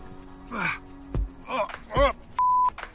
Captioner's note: grunts; beep